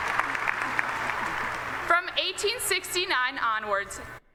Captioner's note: cheering and applause